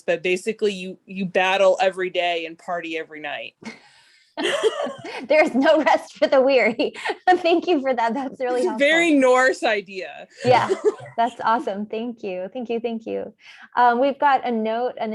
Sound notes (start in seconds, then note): 4.4 laughs; 6.2 laughs; 10.4 laughs